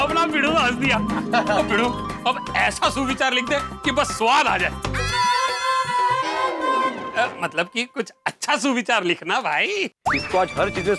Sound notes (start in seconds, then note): 5.0 laughing